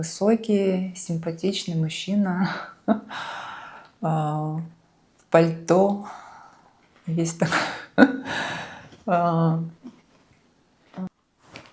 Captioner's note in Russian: вздыхает; тяжело вздыхает